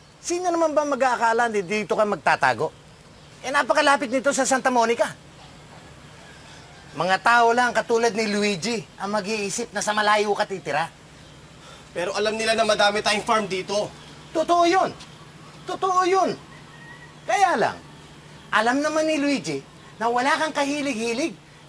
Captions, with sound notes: Who would think that you would be hiding here? It is very close to Sta. Monica. Only people like Luigi would think that you live far away. [sighs] But they know we own a lot of farmland here. That's true. That's true. But Luigi knows that you have no passion